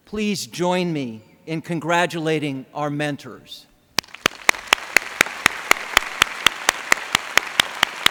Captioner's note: applause